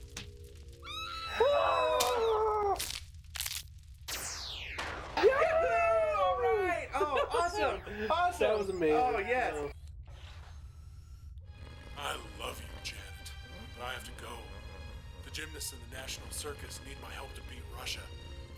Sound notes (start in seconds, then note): 0.8 screaming; 11.3 snoring; 12.2 movie voice